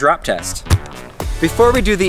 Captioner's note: thuds